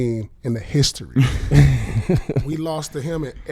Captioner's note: laughing